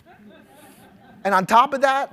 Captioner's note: audience laughs